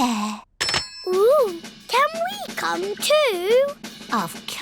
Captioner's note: none